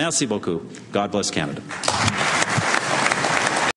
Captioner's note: applause